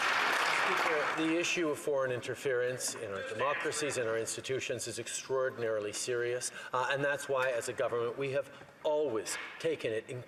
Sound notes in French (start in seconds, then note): 3.6 voix de l'interprète